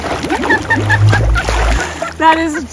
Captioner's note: laughing